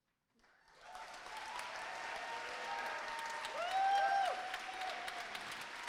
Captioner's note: applause